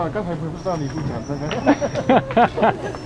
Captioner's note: mandarin